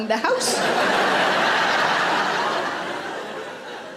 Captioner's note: audience laughing